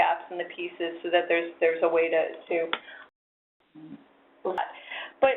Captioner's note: voice distorting